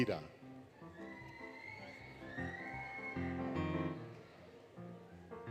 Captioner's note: applause, Cheering, Music